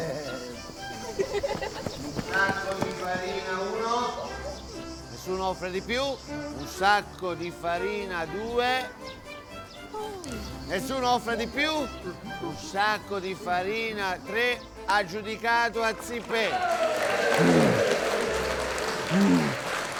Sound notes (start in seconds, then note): 0.0 children laughing; 9.4 big sighs; 16.1 everybody applauding and cheering